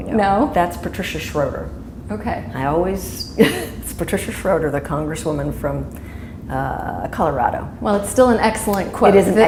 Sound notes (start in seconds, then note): 3.4 chuckle